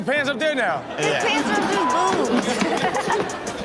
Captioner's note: laughing; audience laughing